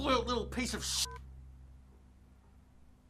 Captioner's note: phone clicks off